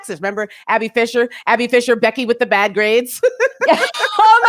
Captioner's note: laughs